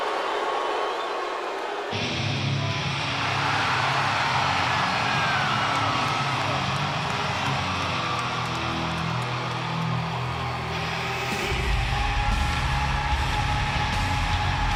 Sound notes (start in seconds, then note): 2.3 upbeat music; 3.8 audience cheers